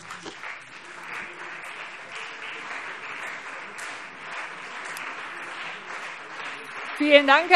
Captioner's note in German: Beifall CDU und BÜNDNIS 90/DIE GRÜNEN